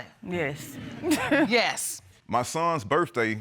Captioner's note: chuckles